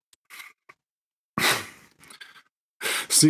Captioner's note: laughs